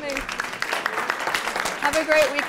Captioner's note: applause